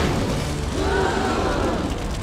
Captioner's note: crowd gasps